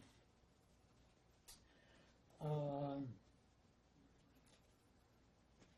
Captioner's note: pauses 11 seconds